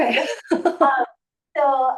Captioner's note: laughing